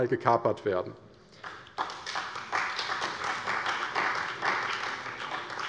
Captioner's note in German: Beifall bei der CDU